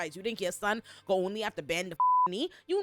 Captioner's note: beep